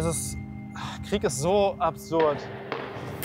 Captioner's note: distant shots